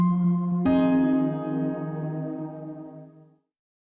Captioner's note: jazzy music continues; digital chime